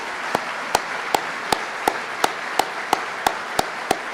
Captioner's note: applause